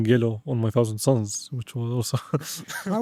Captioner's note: laughs